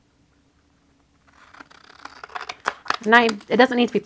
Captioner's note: scissors cutting